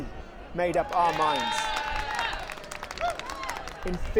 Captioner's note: crowds cheers and claps